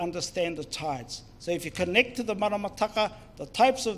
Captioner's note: foreign Language